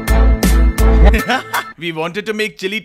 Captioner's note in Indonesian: Tertawa